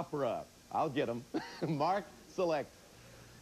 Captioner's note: audience laughing